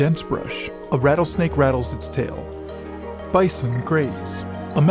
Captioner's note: snakes hissing